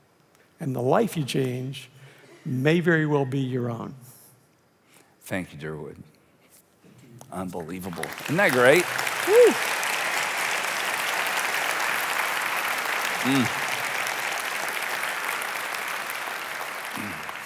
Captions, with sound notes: And the life you change may very well be your own. - Thank you, Durwood, unbelievable. Isn't that great? (applauding)